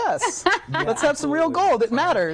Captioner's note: laughing